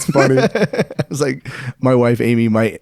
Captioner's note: laughing